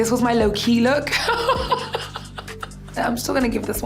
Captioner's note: laughs